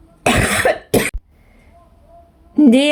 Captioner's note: cough